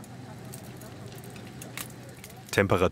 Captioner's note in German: Knistern